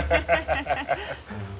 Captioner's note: laughter